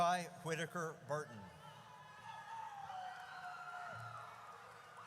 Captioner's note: audience cheers